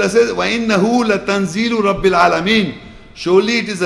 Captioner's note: Arabic